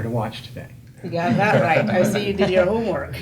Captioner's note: laughter